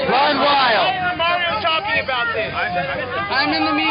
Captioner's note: voiceover